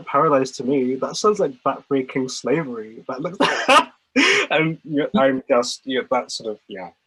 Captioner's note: laughs